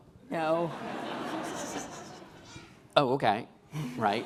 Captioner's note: laughing